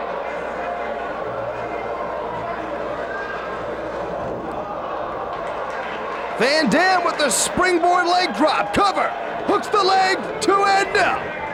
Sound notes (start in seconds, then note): 4.5 spectators exclaiming; 5.5 spectators cheering and applauding